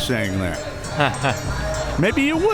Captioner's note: laughs